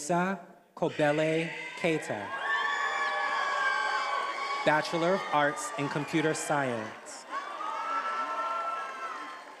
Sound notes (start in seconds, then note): 2.2 attendees applauding and cheering